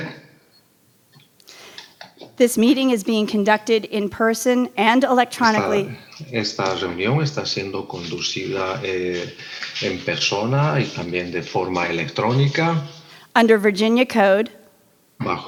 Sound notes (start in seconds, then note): 6.3 translator speaking in foreign language; 15.2 translator speaking in foreign language